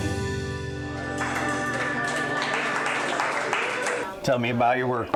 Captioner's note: patrons applaud